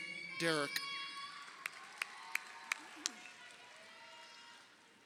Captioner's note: crowd cheering